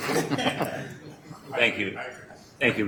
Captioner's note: laughing